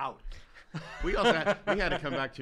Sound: laughs

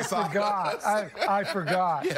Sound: laughter

